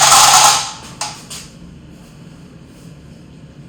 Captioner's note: drilling